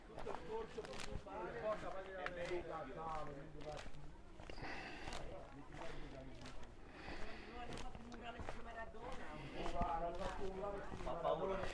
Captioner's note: background chatter